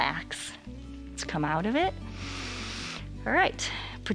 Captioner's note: inhales